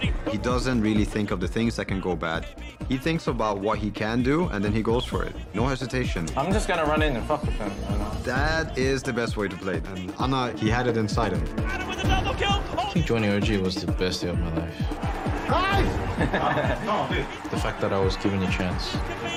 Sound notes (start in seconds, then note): 15.8 laughing